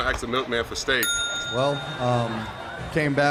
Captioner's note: ding!